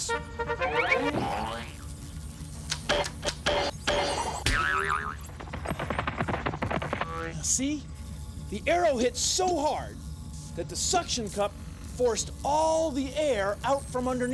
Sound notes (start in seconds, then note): 0.0 fanfare plays; 2.5 boing! boing! boing!; 5.4 footsteps